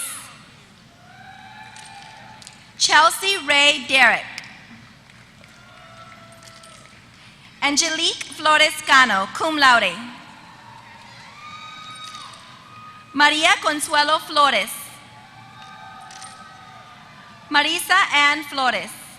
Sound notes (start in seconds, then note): 0.1 applause; 5.4 applause; 9.9 applause